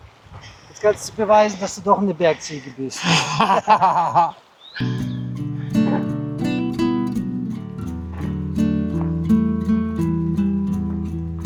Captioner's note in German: gelächter